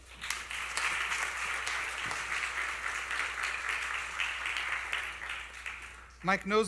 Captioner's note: applause